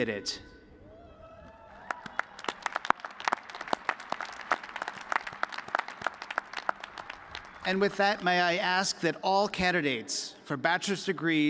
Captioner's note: cheers and applause